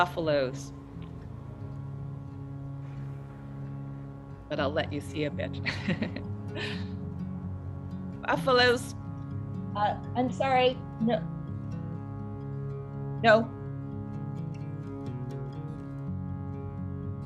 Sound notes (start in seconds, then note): 5.6 laugh